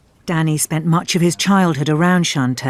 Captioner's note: voiceover